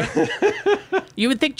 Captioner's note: laughing